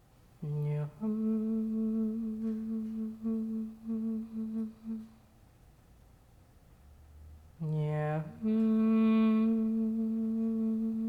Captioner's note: softly hums